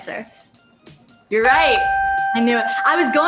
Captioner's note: bell chimes